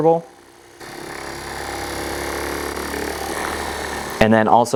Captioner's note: massage gun buzzing